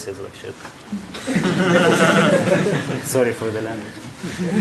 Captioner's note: laughing